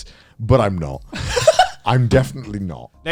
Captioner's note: laughs